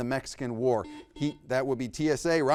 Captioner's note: buzzer beeps